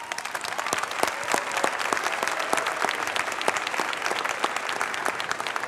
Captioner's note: applause